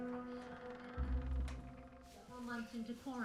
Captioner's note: door creaking